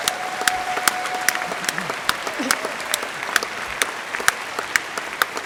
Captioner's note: applause